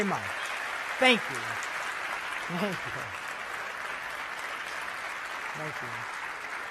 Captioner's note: applause